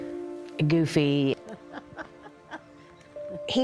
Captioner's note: laughs